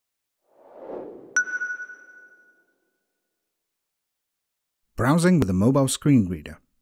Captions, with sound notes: [Logo whooshes into view, stopping with a sonar-like 'ping'] Browsing with a mobile screen reader.